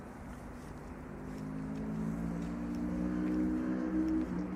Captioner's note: sound of footsteps slowing down